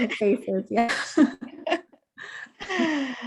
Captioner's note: both laughing